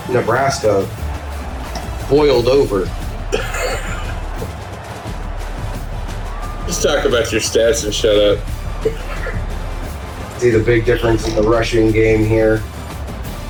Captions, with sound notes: Nebraska boiled over. [LAUGH] Just talk about your stats and shut up. See the big difference in the rushing game here.